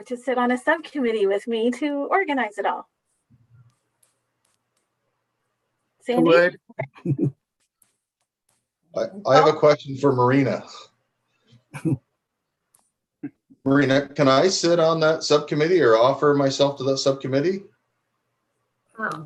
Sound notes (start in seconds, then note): 6.8 chuckling; 11.7 chuckling